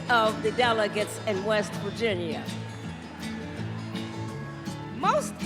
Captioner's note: cheers and applause